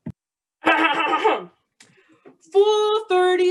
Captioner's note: clearing throat